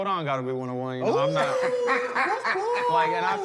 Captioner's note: laughter